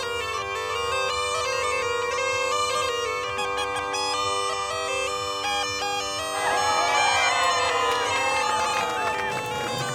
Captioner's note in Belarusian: апладысменты